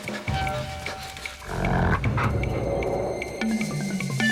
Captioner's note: snarling